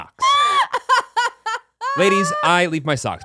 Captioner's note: laughing